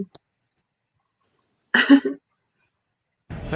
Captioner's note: laughs